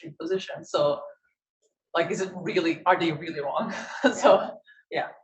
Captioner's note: laughs